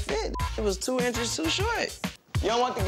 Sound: beep

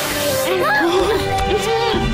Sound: MB moans

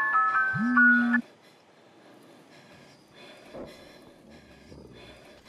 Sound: heavy breathing

